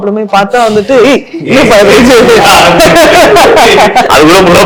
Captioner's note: laughter